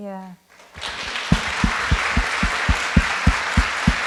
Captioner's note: group claps